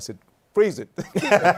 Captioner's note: laughter